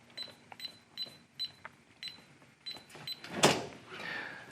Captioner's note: keypad beeping